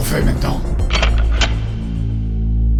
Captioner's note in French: Clic Clic